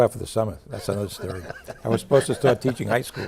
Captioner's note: group laughing